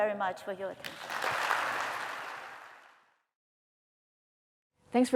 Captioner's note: applause